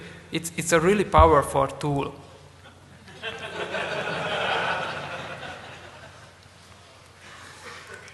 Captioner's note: laughter